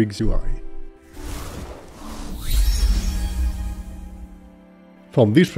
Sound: tranquil music; graphics whooshing

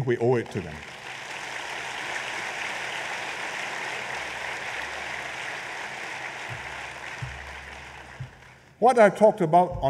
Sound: applause

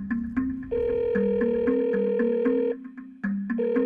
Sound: phone ringing

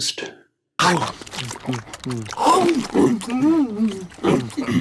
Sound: mouths chomping

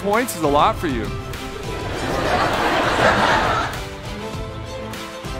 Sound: audience laugh

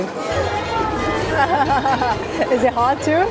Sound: laughs

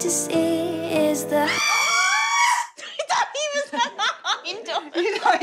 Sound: screams of laughter

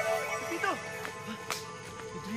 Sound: gasps

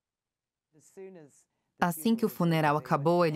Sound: voiceover

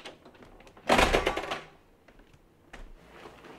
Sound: door locks

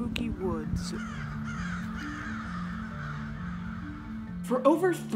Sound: crows cawing

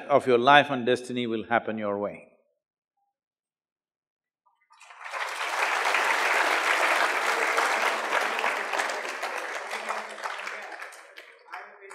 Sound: applause

